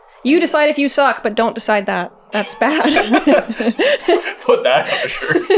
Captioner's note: laughter